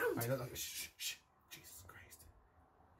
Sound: whispering

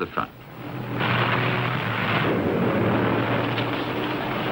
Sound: engines humming

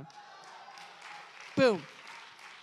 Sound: attendees applauding

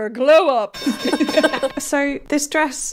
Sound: bell ringing

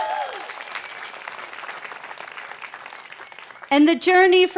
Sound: cheering

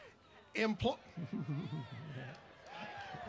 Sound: cheering

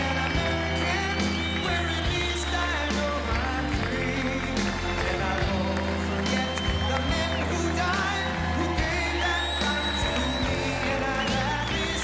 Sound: cheers and applause

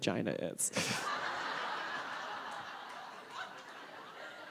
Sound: audience laughing

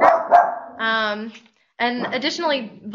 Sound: dog barking

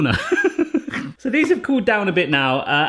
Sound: laughs

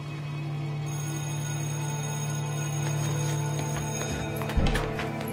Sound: bell ringing

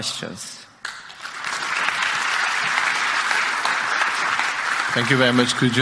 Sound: audience applauding

